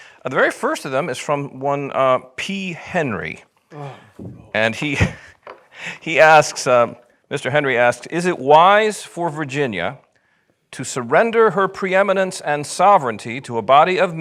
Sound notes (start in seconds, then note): 4.8 chuckles